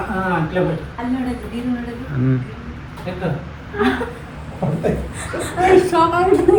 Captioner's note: laughs